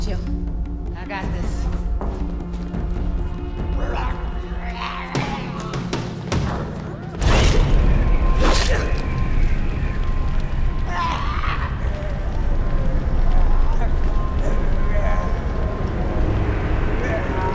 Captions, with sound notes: - Me, too. - I got this. [zombie snarling] [growling]